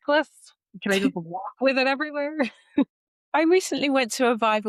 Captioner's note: chuckles